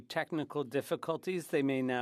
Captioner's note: speaking French